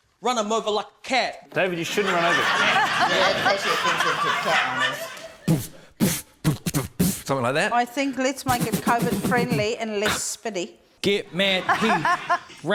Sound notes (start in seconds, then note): 1.8 laughter; 5.4 beatboxes